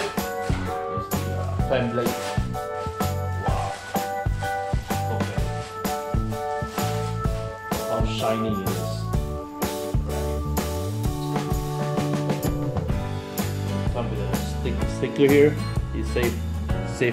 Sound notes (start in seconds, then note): 6.4 unwrapping